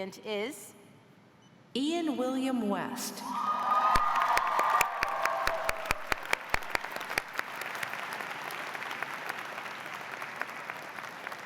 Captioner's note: cheers and applause